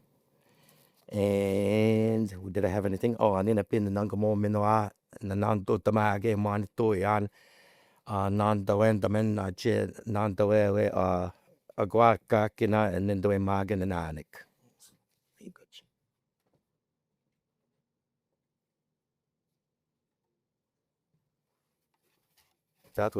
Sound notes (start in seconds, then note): 2.7 French language spoken; 2.7 indigenous language spoken